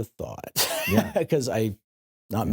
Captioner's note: laughs